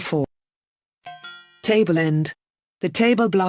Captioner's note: P’ding